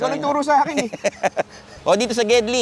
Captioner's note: laughs